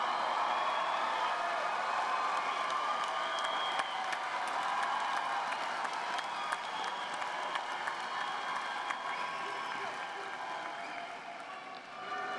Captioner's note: cheers and applause